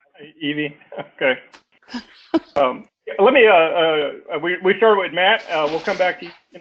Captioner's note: laugh